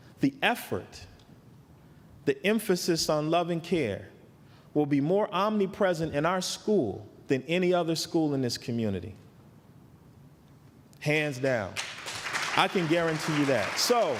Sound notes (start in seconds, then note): 11.7 applause